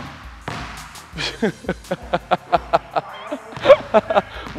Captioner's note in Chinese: 無情嘲笑